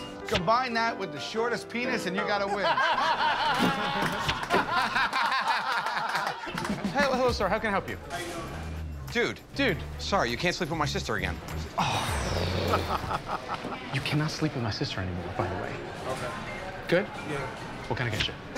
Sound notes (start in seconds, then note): 2.0 laughter; 11.7 sighs